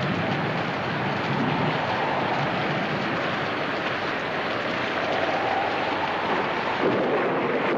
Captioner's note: thunder claps; wind howling